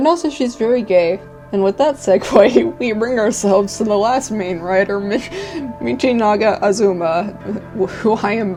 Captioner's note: cracking up